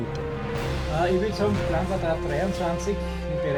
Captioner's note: chatting in German